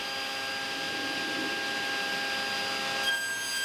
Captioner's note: sound of sawing